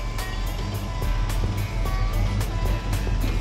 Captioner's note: engine rumbling